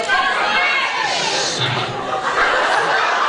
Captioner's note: laughs